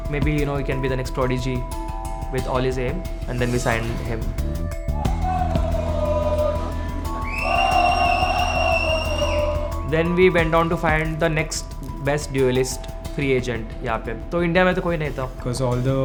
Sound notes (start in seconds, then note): 4.9 crowd Cheering